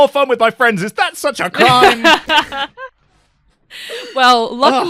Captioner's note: laughter